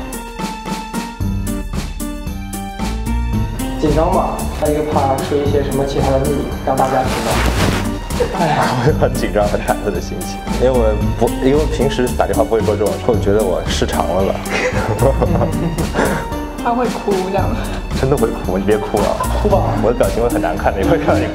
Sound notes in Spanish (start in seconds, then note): 8.2 Risas; 14.4 Risas